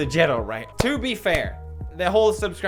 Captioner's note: clap clap